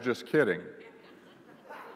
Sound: laughter

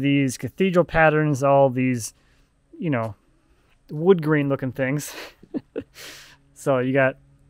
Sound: laughs

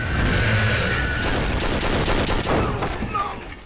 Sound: gunshots

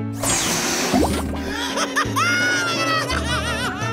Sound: laughing

